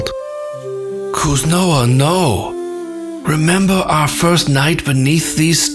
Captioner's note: voice raw with emotion